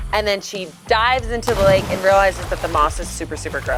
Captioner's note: water splashes